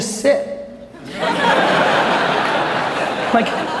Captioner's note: audience laughs